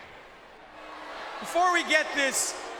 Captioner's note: audience jeers